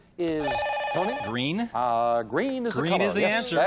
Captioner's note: beep